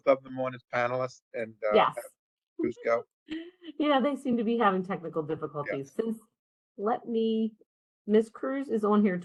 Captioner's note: laugh